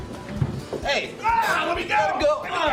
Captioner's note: screams